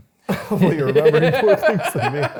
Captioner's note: both laughing